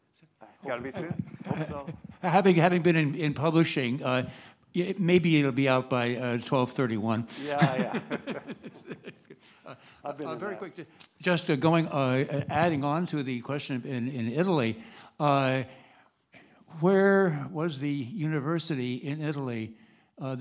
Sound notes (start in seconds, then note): 7.3 laughs